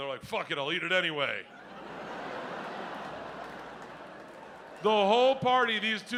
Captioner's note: audience laughs